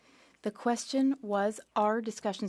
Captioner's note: speaking French